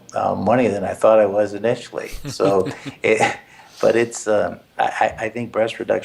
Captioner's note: laugh